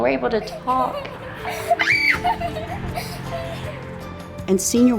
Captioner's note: child laughing